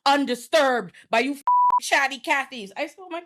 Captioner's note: beep